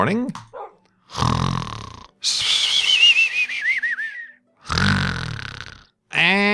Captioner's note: snoring